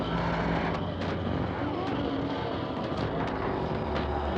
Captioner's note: loud clattering